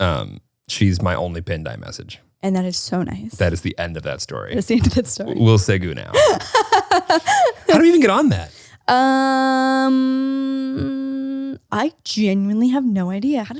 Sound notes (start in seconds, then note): 6.1 laughs